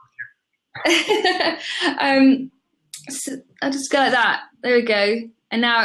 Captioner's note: laughs